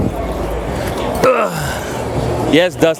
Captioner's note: grunts